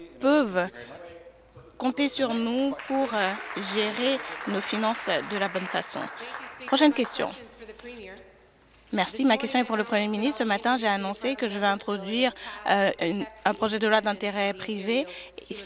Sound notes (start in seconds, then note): 7.4 applause